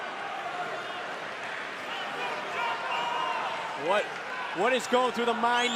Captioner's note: crowd cheering